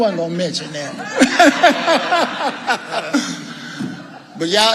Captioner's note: all laughing